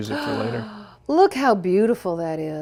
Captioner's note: gasps